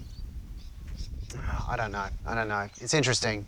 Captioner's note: sigh